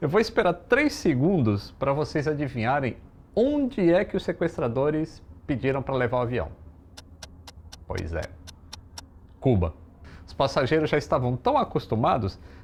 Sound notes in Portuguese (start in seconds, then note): 6.9 barulho de relógio